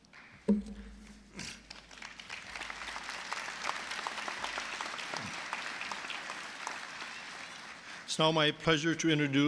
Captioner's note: applause